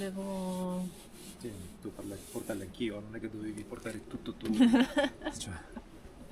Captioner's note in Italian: risate